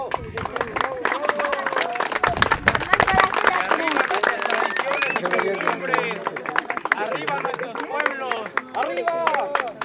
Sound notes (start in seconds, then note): 1.0 applauses